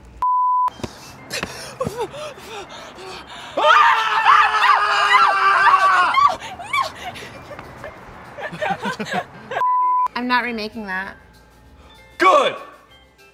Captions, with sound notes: (beep) (heavy breathing) (both screaming) - No, no, no! (both laughing) (beep) - I'm not remaking that. - Good.